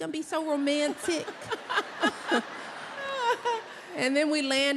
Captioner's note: laughter